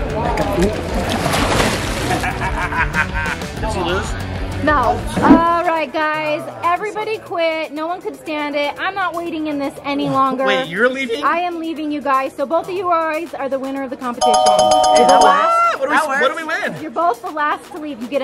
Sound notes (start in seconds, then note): 14.2 bell ringing